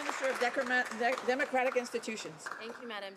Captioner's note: some Applause